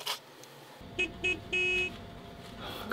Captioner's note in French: Klaxon